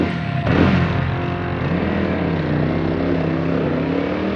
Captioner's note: motorcycle engine